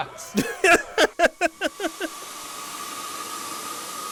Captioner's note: laughing